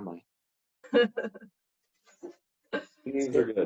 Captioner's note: laughing